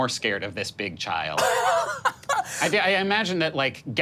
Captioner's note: laughing